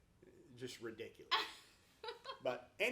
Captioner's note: laughs